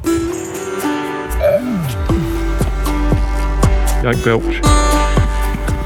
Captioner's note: burp